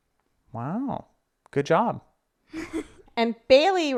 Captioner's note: chuckles